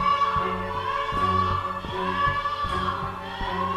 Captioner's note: child crying